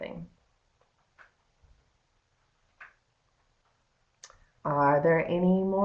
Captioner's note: no sound - waiting for questions